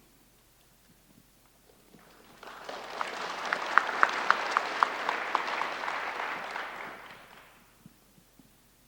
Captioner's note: applause